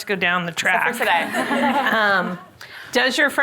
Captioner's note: all laughing